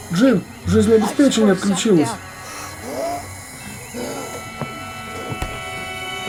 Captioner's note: gasps